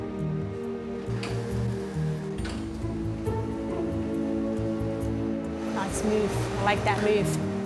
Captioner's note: none